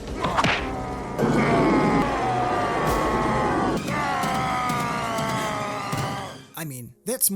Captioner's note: screams